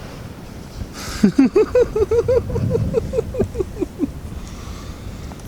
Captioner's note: laughing